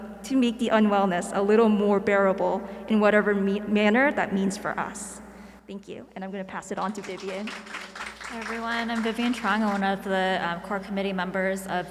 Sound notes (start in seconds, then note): 7.0 audience applauding